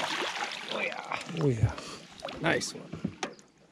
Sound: fish splashing

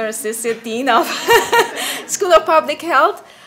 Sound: laughs and laughter

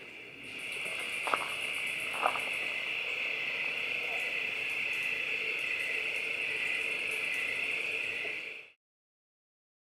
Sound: crickets and night noises

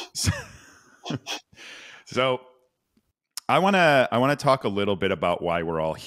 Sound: laughs

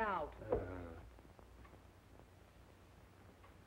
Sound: groan

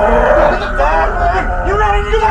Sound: demonic growling

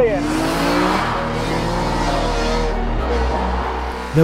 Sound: car engine rasping

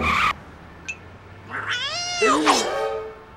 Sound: meows

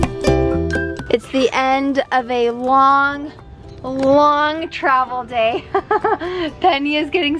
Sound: laughs

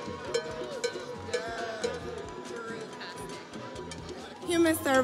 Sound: cow bell clanking

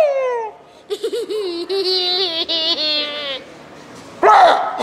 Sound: spooky laughing; imitates laugh; laughs; yells and laughs

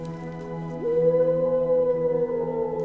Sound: an owl hoots menacingly

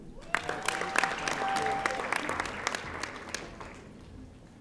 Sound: audience applauding

